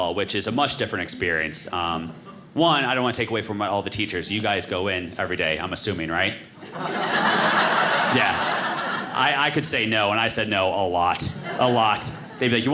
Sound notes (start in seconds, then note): 6.6 audience laughing